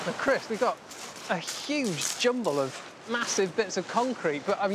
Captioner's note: waves crashing